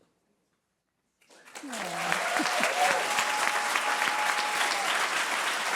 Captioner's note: applause